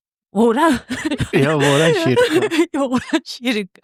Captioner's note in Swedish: skratt